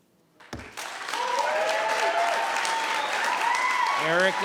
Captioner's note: cheering and applauding